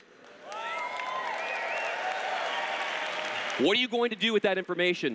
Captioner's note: cheers